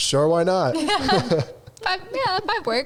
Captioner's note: all laughing